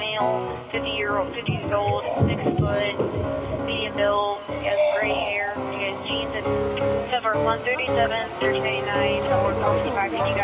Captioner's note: rumbling sounds; crying sounds